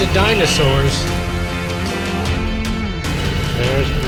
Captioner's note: roar & Prehistoric Sounds